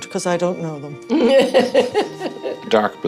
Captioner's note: laughter